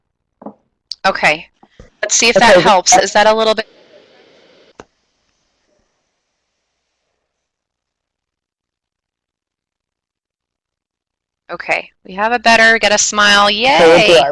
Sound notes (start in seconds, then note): 5.9 audio break